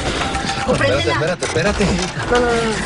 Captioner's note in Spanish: Disparos